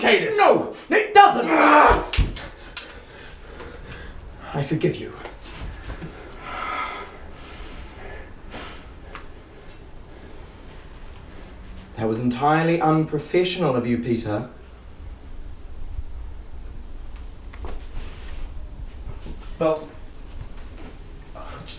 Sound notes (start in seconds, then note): 1.6 growls; 1.6 swords shwing; 2.5 heavy breathing; 5.4 deep breathing